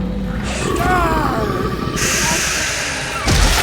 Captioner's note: creature snarling; Bruce moaning; rock smashing